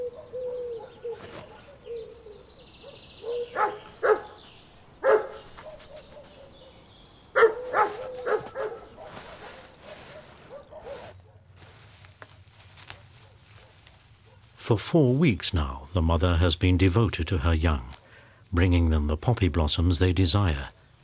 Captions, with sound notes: (owl hoots) (dog barks) For four weeks now, the mother has been devoted to her young, bringing them the poppy blossoms they desire